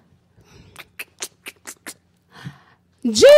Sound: clicks mouth

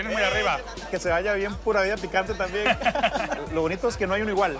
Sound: laugh

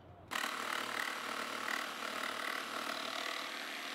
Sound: saw whirring

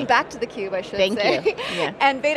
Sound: laughs

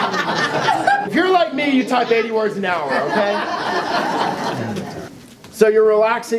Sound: laughing

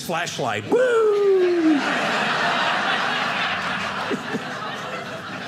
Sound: audience laughing

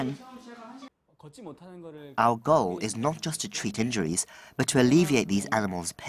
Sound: Korean

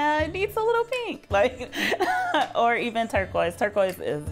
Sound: laughs

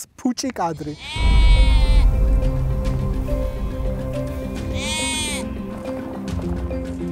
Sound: sheep bleating

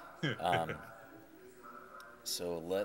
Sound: chuckling

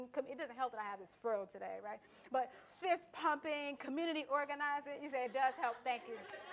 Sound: audience laughter and comments

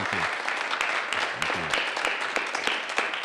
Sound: clapping

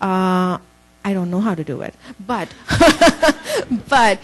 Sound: laughs

